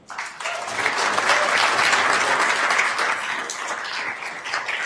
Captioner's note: attendees applauding